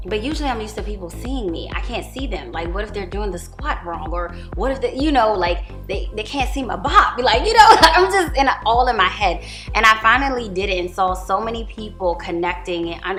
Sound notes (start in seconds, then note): 7.6 laughs